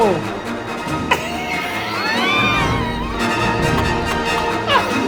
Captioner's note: wheezing